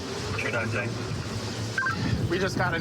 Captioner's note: radio communication